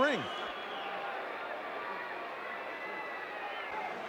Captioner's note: audience cheering